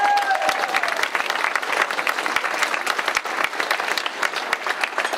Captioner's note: clapping and cheering